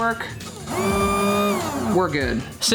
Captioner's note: motor whirring